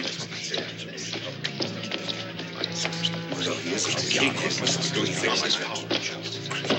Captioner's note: muttering